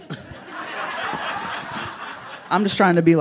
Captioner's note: audience laughing